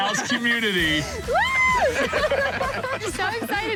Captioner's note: laughter